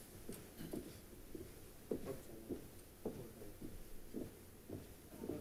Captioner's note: ROTC units marching in place